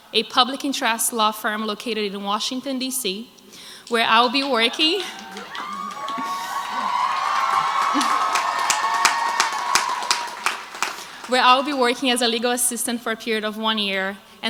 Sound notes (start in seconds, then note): 4.0 crowd cheers